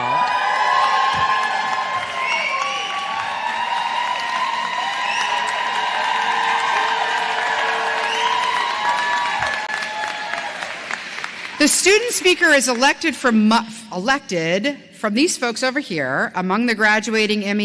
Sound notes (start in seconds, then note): 0.0 cheers and applause